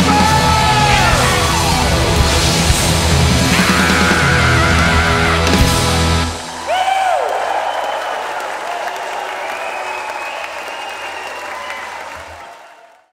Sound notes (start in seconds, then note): 3.4 screaming; 9.3 audience cheering and applauding